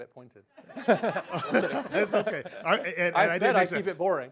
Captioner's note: laughs